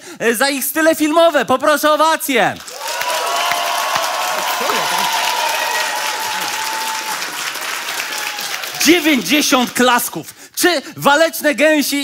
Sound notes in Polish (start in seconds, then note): 2.6 oklaski publiczności